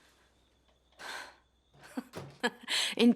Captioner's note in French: rires